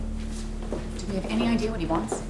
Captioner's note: door opening; footsteps thumping